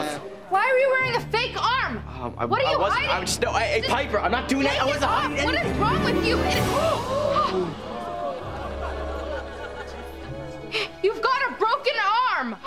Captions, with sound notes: Why were you wearing a fake arm? - Um, I wasn't- - What are you hiding? Eh, Piper, I'm not doing - I wasn't hiding anything. What is wrong with you? [gasping] You've got a broken arm.